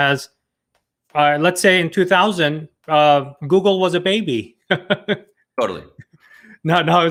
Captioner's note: laughs